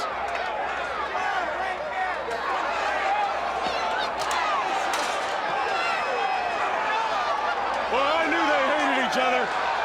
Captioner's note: crowd chatter